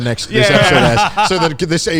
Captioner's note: laughs